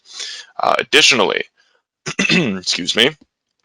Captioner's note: clears throat